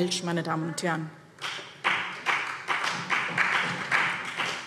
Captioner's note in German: Beifall BÜNDNIS 90/DIE GRÜNEN und vereinzelt CDU